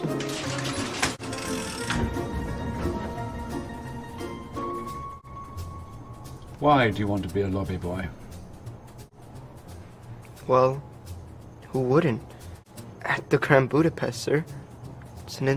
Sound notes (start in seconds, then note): 0.0 door clanks; 0.2 handle clicks